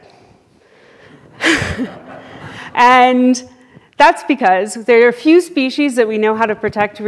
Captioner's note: laughs